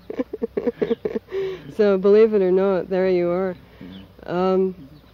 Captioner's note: laughs